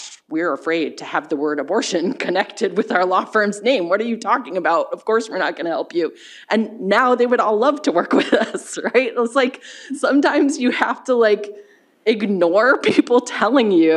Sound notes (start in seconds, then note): 8.7 chuckles